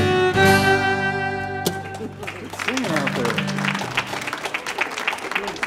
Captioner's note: audience applauding